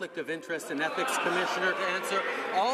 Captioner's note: applause